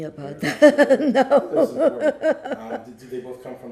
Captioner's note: laughing